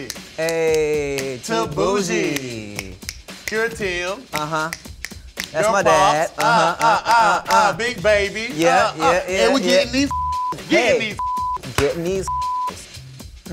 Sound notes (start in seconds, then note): 10.0 beep